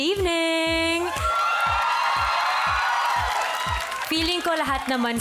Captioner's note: audience whooping, clapping